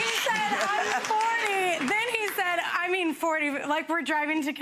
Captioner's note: audience laughs